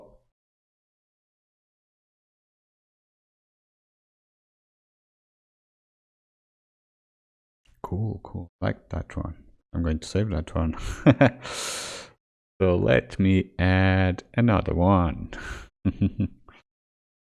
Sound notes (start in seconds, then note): 10.8 giggles